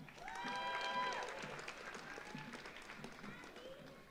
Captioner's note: audience applauds